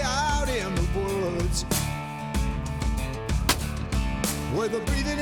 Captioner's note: gunshot